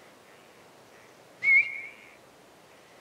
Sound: whistles

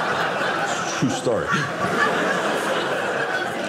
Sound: audience laughing

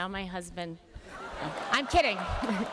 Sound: laughter

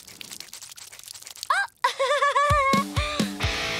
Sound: chuckles

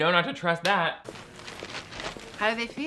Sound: paper ruffling

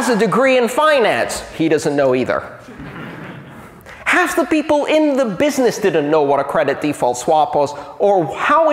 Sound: laughter

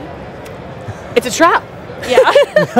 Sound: laughs

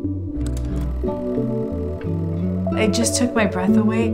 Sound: film projector clicks and whirrs

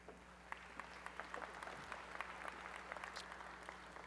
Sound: applause

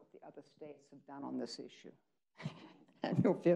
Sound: chuckles

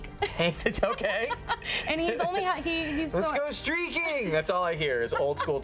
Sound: laughing

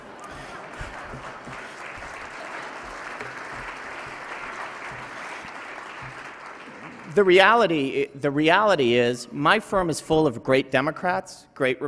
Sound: laughter, applause

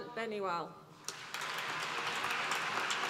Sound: applause

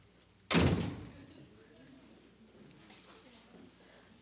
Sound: door closes

